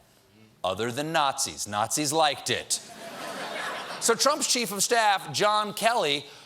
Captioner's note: laughter